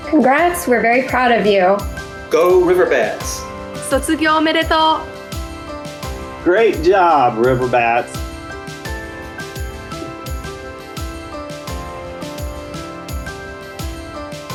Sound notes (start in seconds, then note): 3.8 speaks in foreign language